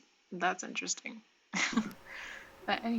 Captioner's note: chuckle